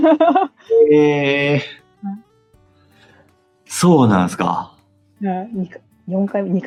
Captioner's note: laughs